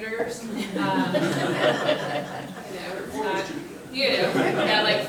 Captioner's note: group laughing